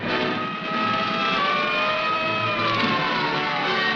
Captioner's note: car sirens